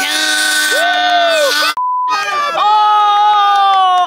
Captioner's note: group cheering